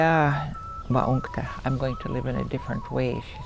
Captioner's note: speaks Dakotah